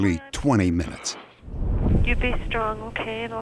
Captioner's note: on phone